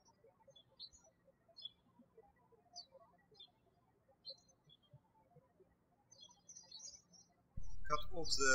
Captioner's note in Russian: птички щебечут